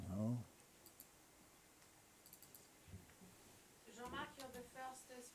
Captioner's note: mouse clicking